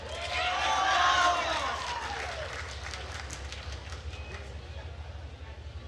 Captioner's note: attendees cheering and applauding